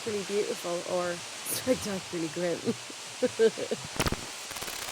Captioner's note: chuckles